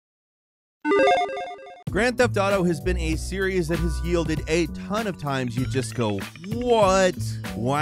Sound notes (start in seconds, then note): 0.9 electronic chiming